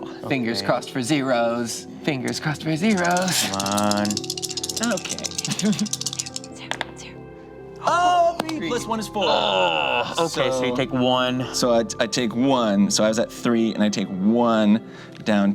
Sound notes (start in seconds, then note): 9.2 groans